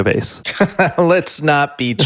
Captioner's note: laughs